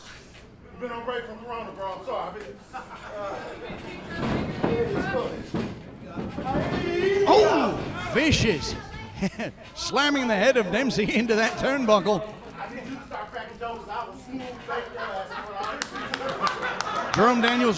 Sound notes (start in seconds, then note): 2.7 crowd laughing; 9.0 laughs; 16.3 crowd laughing